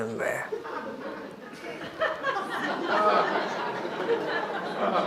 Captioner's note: audience laughs